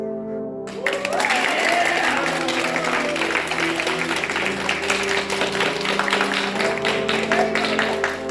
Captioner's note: crowd claps in approval